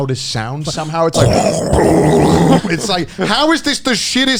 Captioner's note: men imitating bubbling water